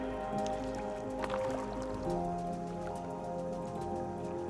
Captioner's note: water splashes